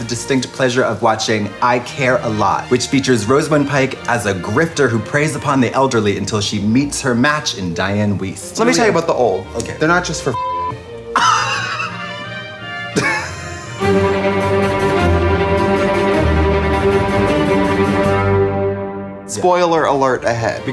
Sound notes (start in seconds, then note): 10.3 beep; 11.1 laughing; 13.8 dramatic music